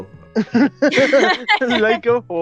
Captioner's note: laughter